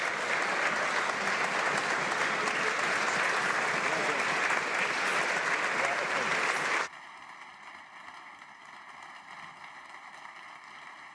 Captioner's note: applause